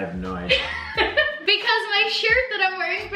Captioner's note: laughter